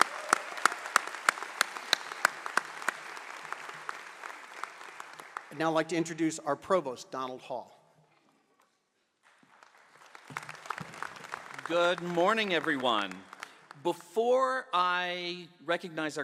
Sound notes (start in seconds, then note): 2.1 applause; 9.2 applause